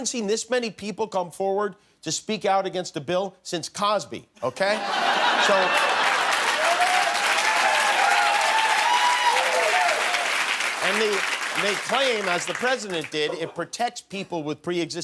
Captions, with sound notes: THEY'RE AGAINST IT. WE HAVEN'T SEEN THIS MANY PEOPLE COME FORWARD TO SPEAK OUT AGAINST A BILL SINCE COSBY. OKAY? [ LAUGHTER ] [ CHEERS AND APPLAUSE ] I MEAN, THEY CLAIM AS THE